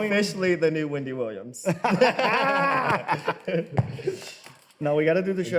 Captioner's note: both laugh